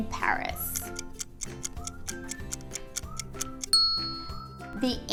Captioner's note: timer ticking; ding